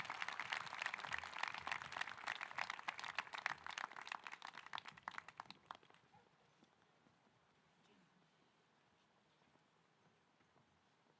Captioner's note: cheering